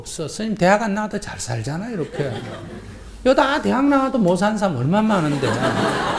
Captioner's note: audience Laughter